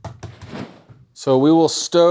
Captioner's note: rolling pin thumping; screen whooshing